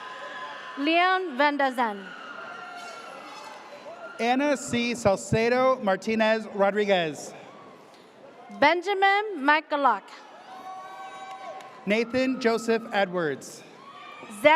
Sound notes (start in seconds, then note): 0.0 audience cheers; 10.3 audience cheers